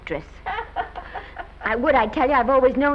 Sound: Mattie laughs

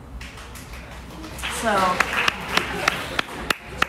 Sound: audience applauds

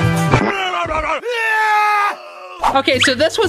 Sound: yelling

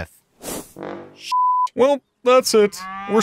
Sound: beep

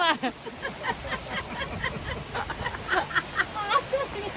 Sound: laughing

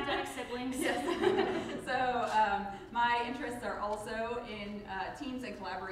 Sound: laughs

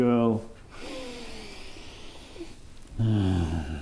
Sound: inhales; groans

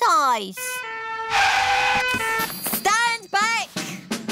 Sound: siren blaring

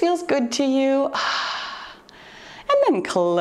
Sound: exhales

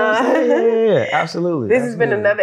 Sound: laughing

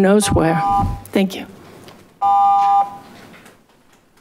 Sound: buzzer beeps

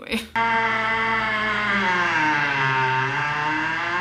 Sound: ice maker screeching

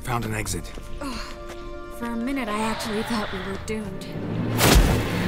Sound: sigh of relief; flames burst

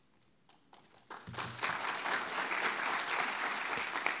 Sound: audience clapping

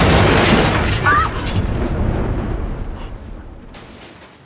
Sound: explosion booms; girls screaming

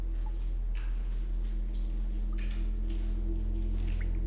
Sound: liquid dripping

